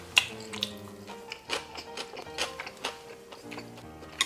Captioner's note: Crunch